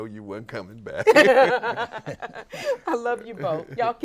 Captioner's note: host and guests laugh